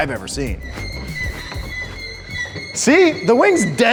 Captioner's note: suspension squeaking